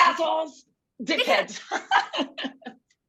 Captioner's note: laughter